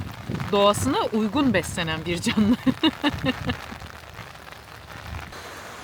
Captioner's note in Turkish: kahkaha